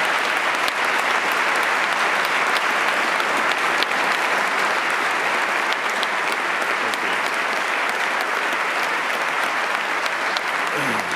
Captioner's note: applause